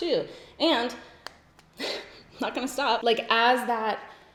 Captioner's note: giggles